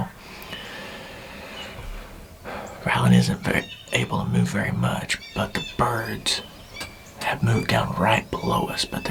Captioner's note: whispering